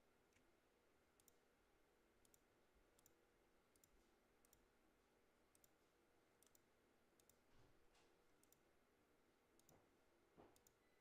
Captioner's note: mouse and keyboard clicking